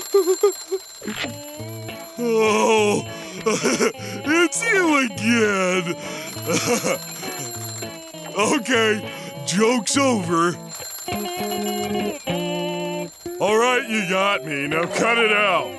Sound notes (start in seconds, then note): 0.0 ringing; 2.4 chuckles; 5.6 chuckles; 10.6 ringing